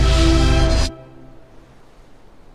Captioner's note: electrical hums and blasts